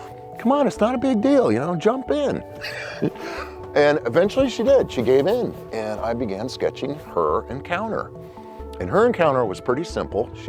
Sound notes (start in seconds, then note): 2.3 laughs